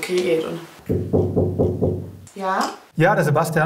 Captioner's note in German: Klopfen